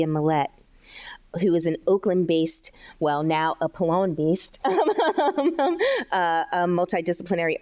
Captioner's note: chuckles